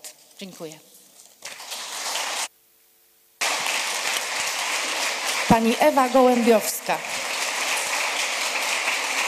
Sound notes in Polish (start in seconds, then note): 3.4 Aplauz